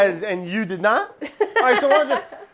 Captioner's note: laughter